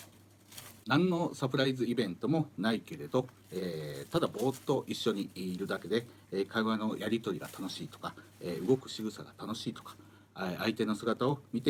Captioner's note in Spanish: Hablando en japonés